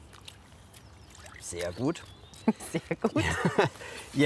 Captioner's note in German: lacht